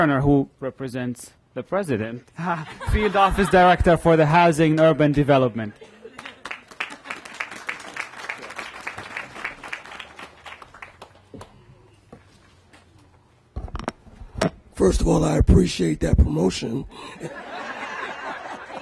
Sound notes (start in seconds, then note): 10.2 applause